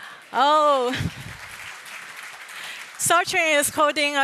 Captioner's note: applause